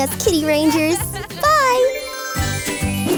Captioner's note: laughs; transition tones